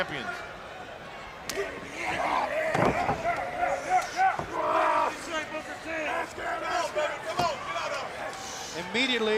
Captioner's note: crowd chatter